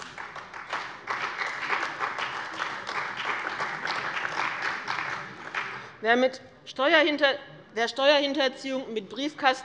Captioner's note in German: Beifall bei dem BÜNDNIS 90/DIE GRÜNEN und der CDU